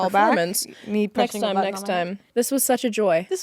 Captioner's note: both chattering